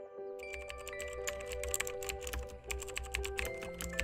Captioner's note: keyboard clacking